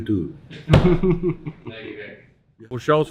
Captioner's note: chuckles